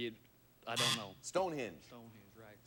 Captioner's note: buzzer sounds